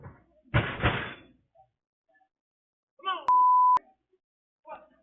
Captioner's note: metal clangs